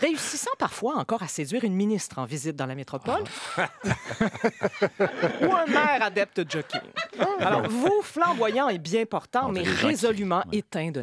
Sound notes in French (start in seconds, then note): 3.3 rires